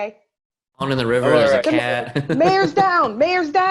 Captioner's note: chuckling